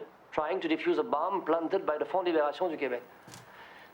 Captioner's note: speaks in foreign language